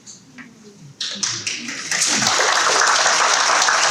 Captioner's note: audience clapping